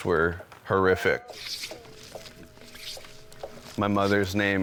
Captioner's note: wood scraping